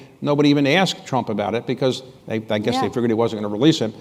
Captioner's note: none